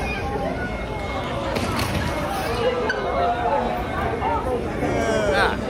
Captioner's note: people groaning, murmuring